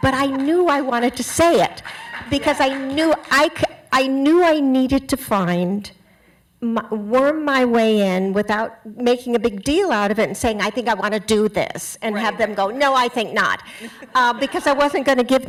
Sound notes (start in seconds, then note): 0.0 applause